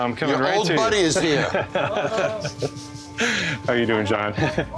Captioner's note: laughter